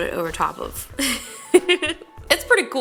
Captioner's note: laughing